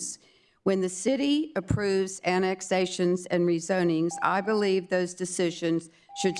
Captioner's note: beep